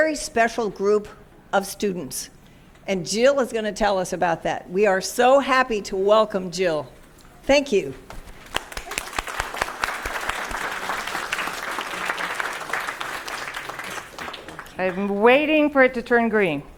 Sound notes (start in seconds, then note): 10.1 applause